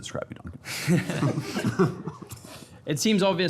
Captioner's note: everyone laughing